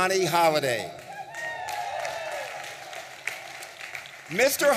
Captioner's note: audience applauding and cheering